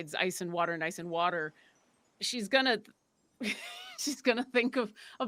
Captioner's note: laughs